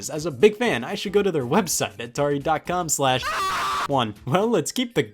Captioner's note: screams